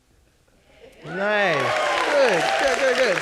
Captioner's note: audience clapping